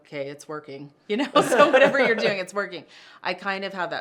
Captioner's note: laughter